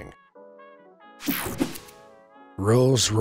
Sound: swooshes

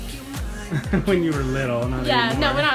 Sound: laughs

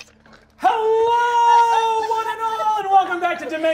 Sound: giggling

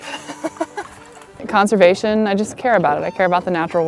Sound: laughs

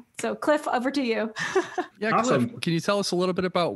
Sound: laughs

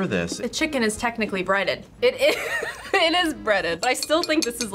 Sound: laughs

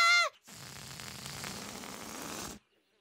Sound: air deflating sound

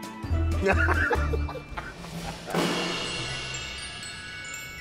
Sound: men laughing

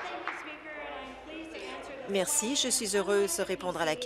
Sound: applause

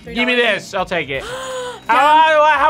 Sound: React gasps

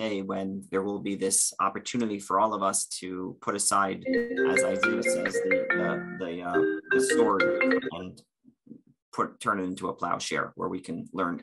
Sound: phone Ringing

